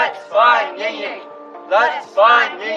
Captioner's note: chanting